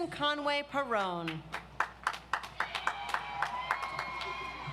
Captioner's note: audience applauds